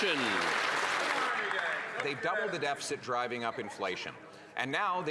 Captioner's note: some Applause